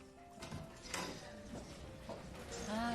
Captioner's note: door opens